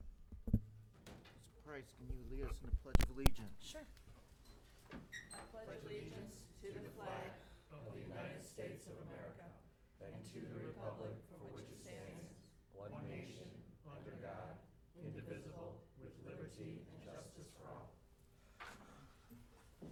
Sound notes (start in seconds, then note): 3.6 all reciting pledge of allegiance